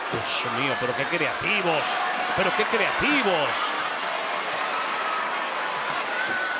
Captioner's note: crowd cheering; commentator speaking Spanish